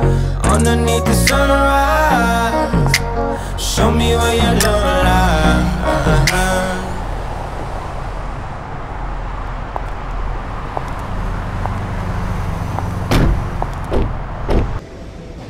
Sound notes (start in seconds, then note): 7.0 cars moving; 9.7 shoes clacking; 12.9 door bangs